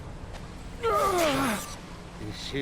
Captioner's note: groans